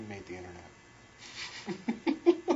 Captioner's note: laughs